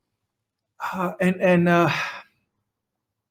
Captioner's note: sighs